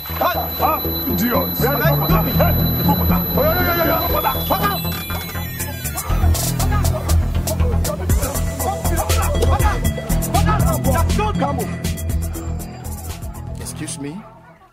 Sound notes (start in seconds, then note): 1.5 tense hip-hop music; 3.4 all shouting